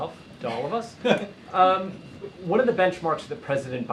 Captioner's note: laughter